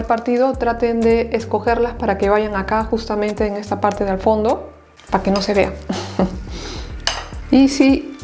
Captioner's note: laughs